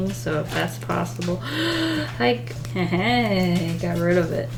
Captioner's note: gasps